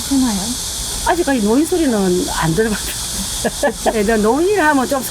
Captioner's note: laughs